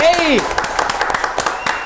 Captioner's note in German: Applaus, Pfiffe